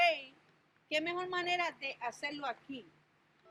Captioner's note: speaking in Spanish language